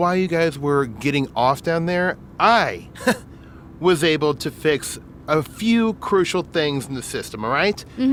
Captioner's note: laughs